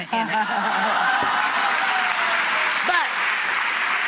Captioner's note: laughter and applause